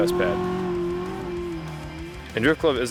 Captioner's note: car engine revving